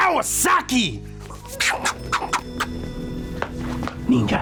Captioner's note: arms whoosh